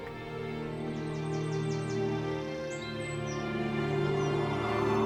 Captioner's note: birds chirping